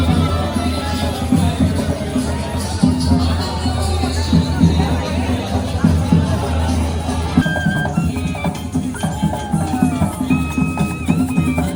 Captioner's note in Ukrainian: оплески